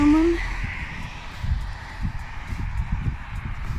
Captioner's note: traffic